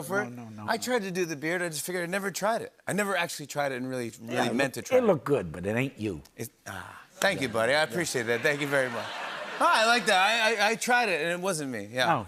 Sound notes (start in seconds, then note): 7.2 laughter